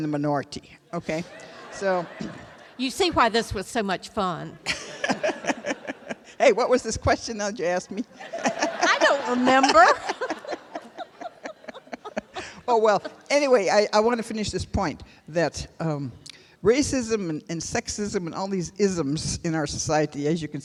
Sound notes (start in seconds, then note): 16.2 laughter